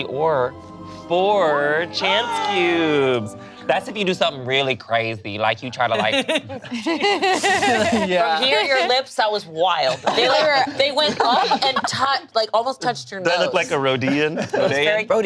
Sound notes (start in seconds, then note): 5.9 laughs